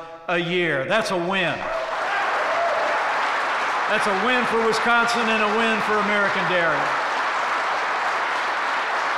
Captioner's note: applause